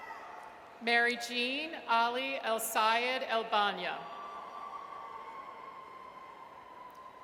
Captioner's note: audience cheers; audience cheers